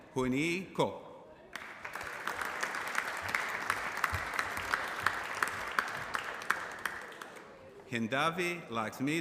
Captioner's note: applause